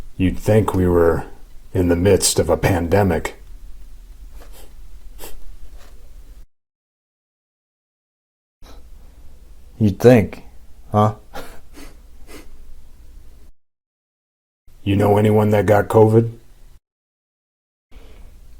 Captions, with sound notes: You'd think we were in the midst of a pandemic. [Chuckle] - You'd think, huh? [Chuckle] [Sniffs] - You know, anyone that got covid?